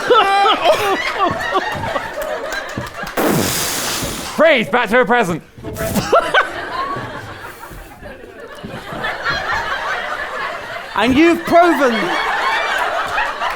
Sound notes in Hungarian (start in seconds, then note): 3.2 robbanás